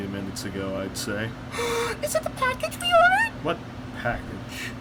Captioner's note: gasp